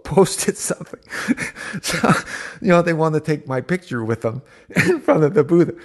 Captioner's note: laughs